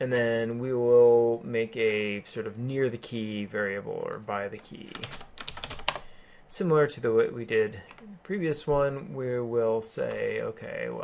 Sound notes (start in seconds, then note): 4.8 keyboarding